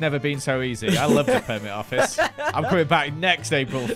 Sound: laughs

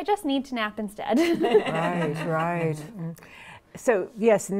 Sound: laughing

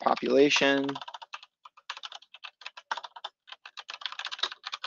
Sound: keyboard clicking

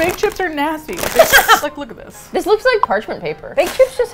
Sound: laughs

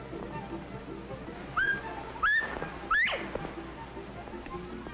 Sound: bobwhite call

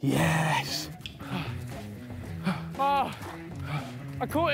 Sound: panting

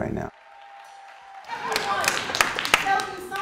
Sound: clapping and cheering

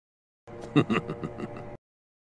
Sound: chuckling

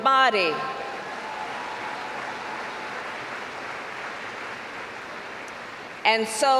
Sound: applause

